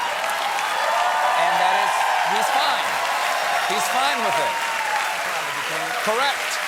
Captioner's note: cheers and applause